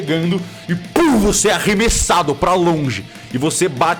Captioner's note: puff